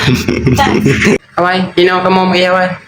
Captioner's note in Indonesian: tertawa